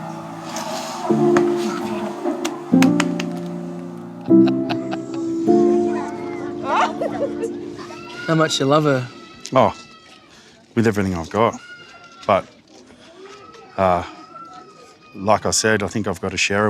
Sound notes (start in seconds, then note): 4.2 laughing